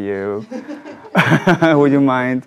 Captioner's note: audience laughs